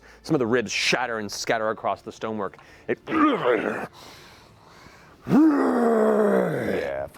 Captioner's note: roars